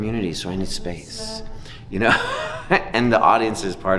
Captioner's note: laughing